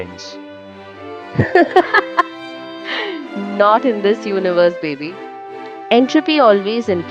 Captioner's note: laughs hysterically